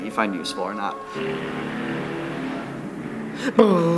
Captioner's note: car noises in background; imitating car noises